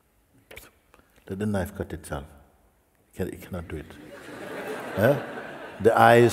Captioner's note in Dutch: gelach